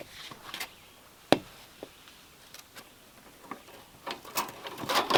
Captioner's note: birds chirping